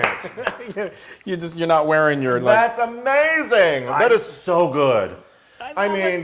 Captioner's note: laugh